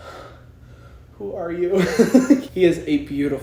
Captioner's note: laughs